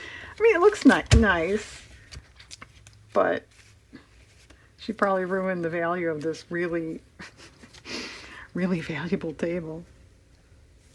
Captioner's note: laughs